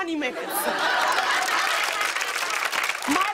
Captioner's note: laughter and applause